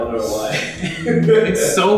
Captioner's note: laughter